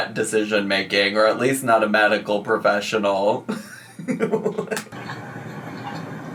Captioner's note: laughs